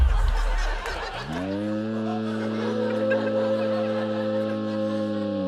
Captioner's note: laughter; gives distorted cheer